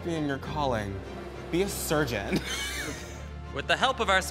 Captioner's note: chuckles